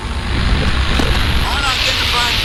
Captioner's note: systems whirring; static buzzing